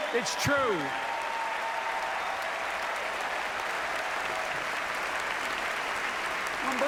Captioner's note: applause